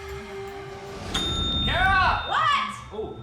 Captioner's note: bell rings